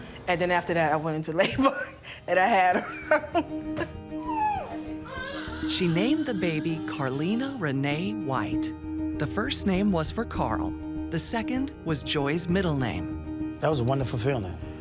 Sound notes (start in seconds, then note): 3.2 laughs; 4.2 baby crying